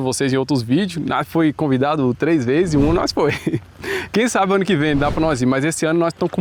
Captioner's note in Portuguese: risadas